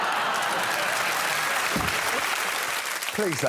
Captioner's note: laughter